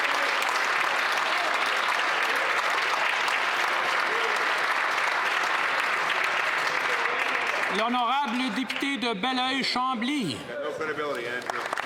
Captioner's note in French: applaudissements